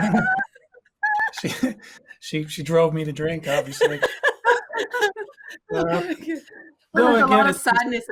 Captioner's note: laughing; laughing